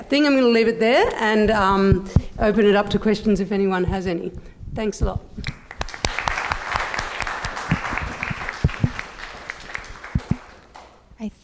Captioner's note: applause